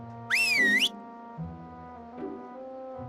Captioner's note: whistles